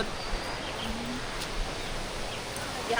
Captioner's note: stair walking